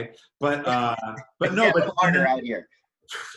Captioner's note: murmurs